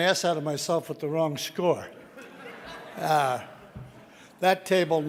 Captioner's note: audience laughing